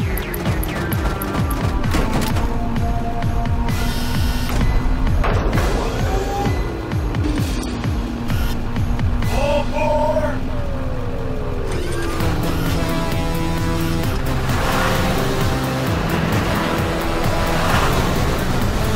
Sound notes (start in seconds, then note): 0.4 Destructivas clanging and thumping; 3.5 tense percussion; 15.3 vehicle roaring